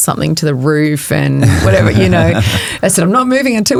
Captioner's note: chuckling